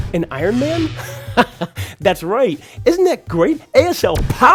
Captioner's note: chuckles